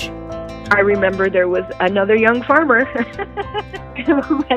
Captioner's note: laughs